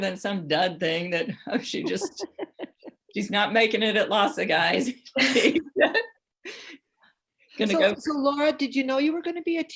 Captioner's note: laughter; laughter